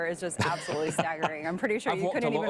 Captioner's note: laughing